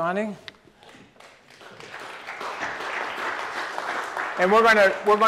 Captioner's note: applause